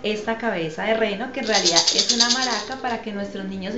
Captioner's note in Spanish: sonajero